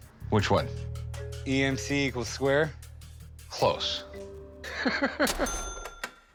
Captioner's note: laughs